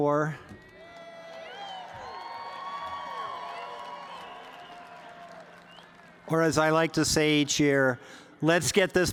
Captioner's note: cheers and applause